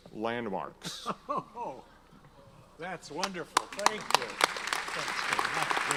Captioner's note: laughs; audience applauds